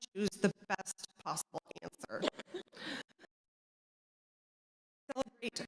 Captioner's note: audio cuts out